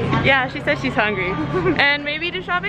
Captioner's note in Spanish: se ríe